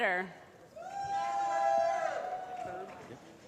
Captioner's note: applause